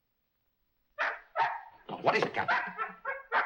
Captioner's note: dog barking